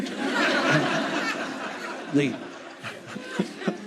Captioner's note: audience laughing